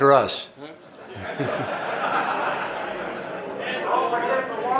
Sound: audience laughing

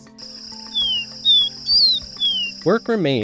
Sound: tawny-bellied seedeater song

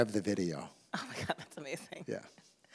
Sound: laughs

